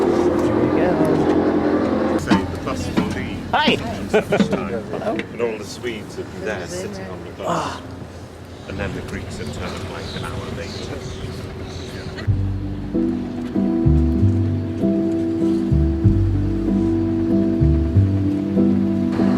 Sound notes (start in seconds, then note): 4.3 background chatter